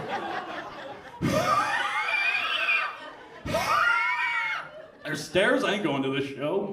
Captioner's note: wheezes